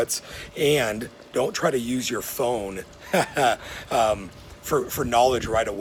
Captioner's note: chuckles